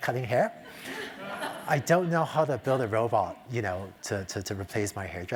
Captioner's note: laugh